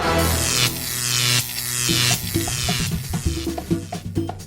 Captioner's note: noise electroshock